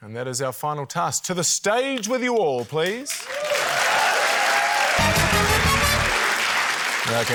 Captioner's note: cheering, applause